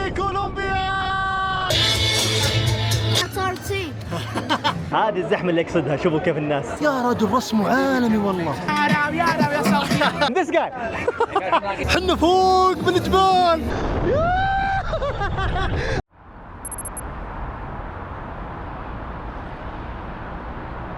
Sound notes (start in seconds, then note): 8.0 laughs; 15.3 laughs